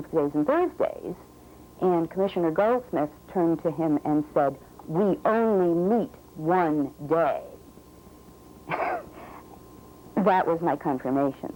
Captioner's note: laugh